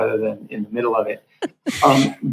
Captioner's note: laughs